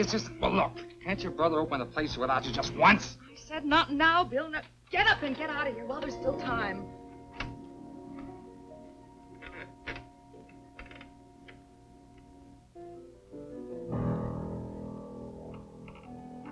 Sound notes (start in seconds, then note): 9.4 stool squeaking; 14.1 dramatic music